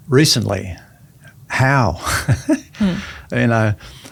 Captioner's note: chuckles